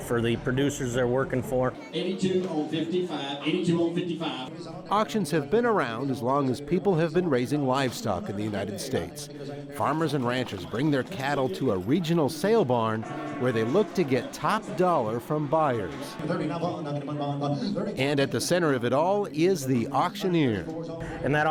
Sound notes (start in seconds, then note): 1.9 rapid Auctioneer chant